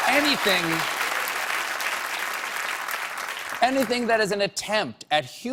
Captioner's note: applause